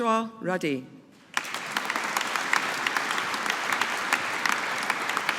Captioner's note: audience applauding